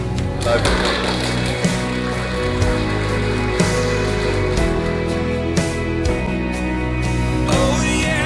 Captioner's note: clapping